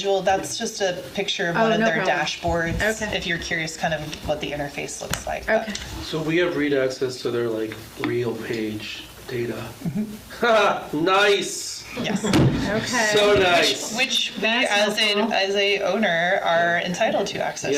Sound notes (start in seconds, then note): 11.9 laughs